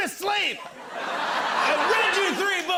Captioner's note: laughter